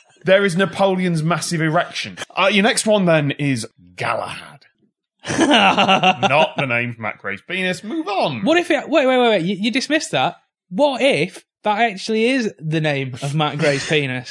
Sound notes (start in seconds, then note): 5.2 laughing